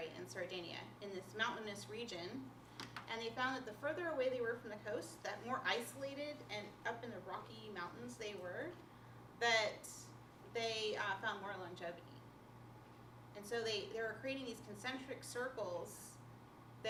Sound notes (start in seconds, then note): none